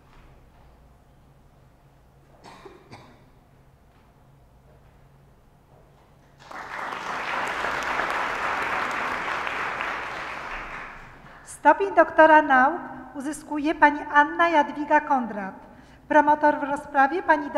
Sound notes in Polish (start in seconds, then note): 6.3 oklaski